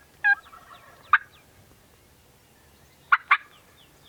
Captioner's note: distant turkey gobbling; turkey call